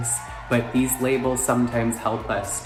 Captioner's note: crowd cheering